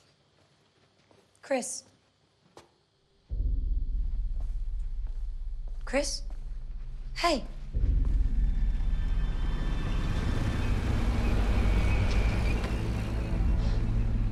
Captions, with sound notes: Chris? Chris? Hey? (ENGINES RUMBLE)